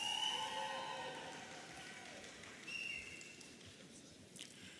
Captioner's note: audience cheering